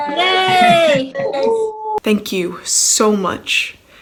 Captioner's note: cheering